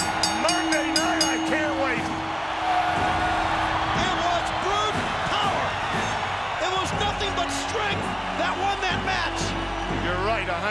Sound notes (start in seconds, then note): 0.0 bell ringing; 3.2 Goldberg screaming; 3.2 crowd cheering